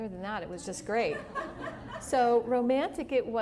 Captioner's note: laughter